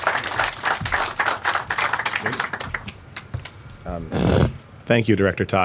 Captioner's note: applause